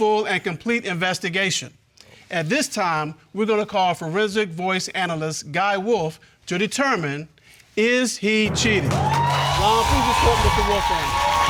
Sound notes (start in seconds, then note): 8.4 audience cheering